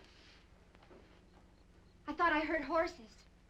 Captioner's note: insects chirping